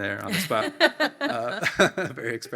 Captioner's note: panelists laugh